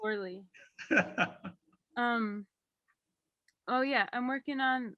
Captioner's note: laughs